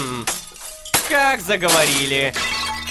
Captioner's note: sounds of breaking dishes